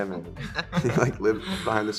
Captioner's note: laughing